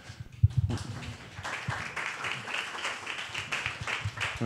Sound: applause

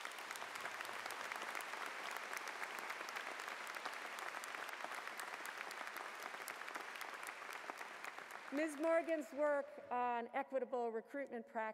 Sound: applause

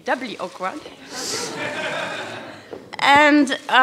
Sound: laughter

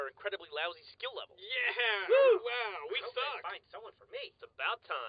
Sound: cheering

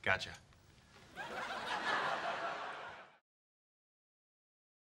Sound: audience laughing

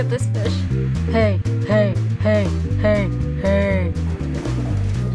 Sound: deep voice

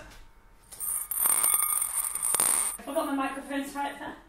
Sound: screws clattering loudly in bowl

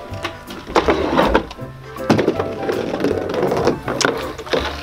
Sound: ball rolling

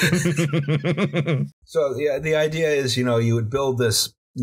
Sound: laughter

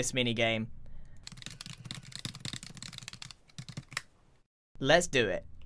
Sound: calculation noises

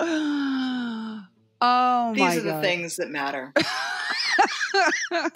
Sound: sighs; laughter

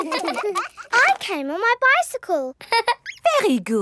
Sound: all laughing; laughs

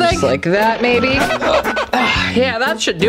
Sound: squeaking

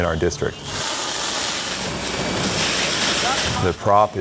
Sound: hose spraying

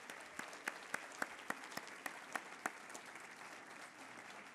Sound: applause

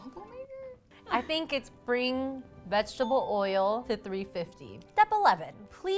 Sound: ding

